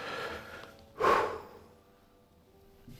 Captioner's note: exhales